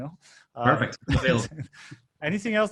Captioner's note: laughing